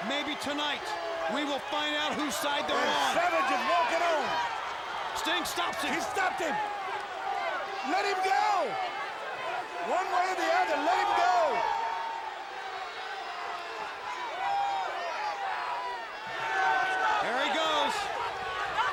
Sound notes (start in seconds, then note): 1.3 people chattering indistinctly